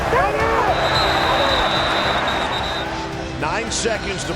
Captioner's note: whistle